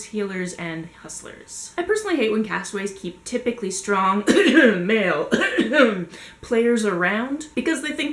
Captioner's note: cough cough